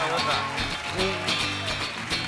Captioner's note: cheers and applause